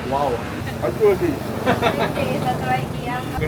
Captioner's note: laugh